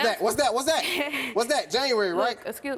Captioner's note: laughing